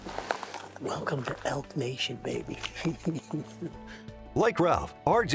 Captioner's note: laughs; laughs